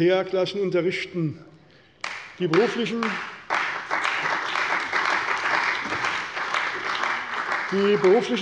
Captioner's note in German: Beifall bei der CDU und dem BÜNDNIS 90/DIE GRÜNEN